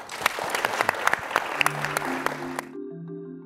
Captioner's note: applause